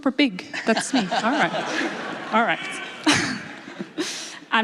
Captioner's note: laughs